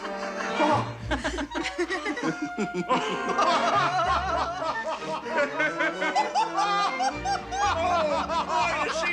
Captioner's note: all laugh